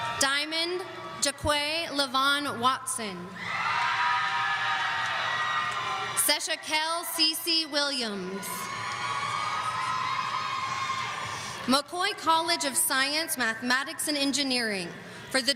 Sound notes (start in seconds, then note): 3.3 audience screaming; 8.2 audience cheering